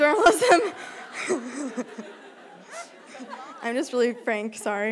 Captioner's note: laughter